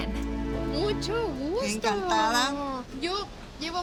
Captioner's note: speaking Spanish